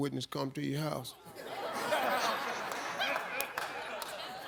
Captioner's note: audience laughs